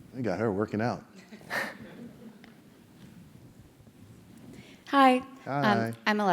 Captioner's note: laugh